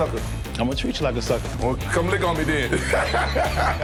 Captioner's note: laughs